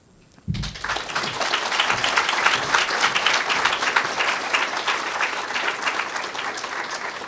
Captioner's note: applause